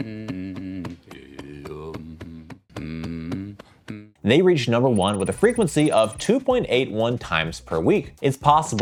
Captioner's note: person humming